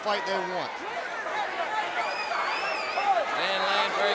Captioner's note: crowd chatter